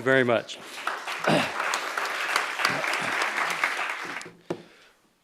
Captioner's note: applause